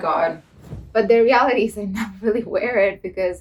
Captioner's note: laughs